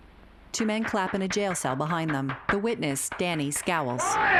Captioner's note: loud clapping